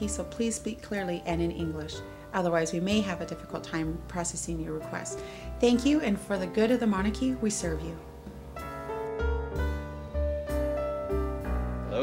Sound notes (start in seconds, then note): none